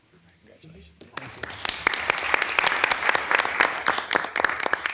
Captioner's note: audience applauding